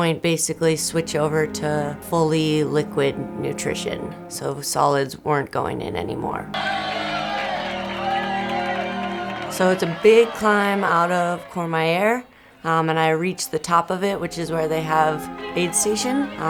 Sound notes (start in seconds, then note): 8.2 crowd cheers